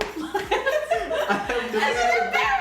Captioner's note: laughter